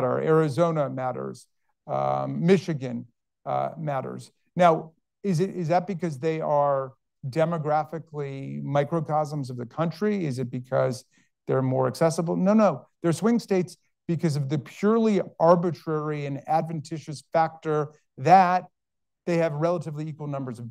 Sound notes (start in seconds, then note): none